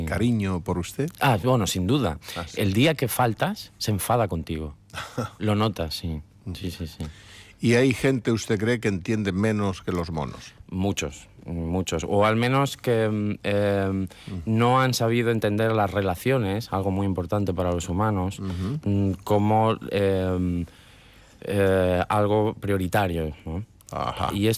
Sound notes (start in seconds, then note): 4.9 laughs